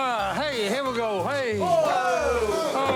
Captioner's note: exclaiming